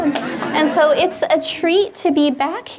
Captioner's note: audience laughing